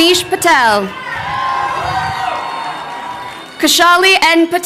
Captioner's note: crowd cheering